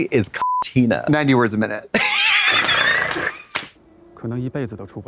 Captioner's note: beep; Katya rasps and slaps